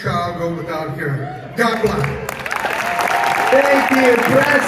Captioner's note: audience cheers and claps